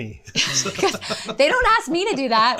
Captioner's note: both laughing